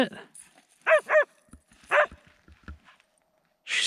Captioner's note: Laika barking